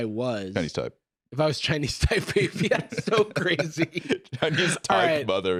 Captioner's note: laughing